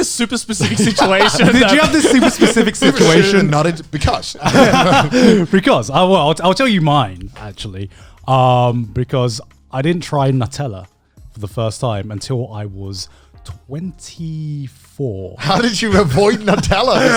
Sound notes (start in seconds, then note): 4.7 laughs